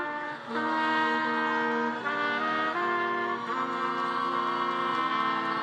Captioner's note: attendees cheering and applauding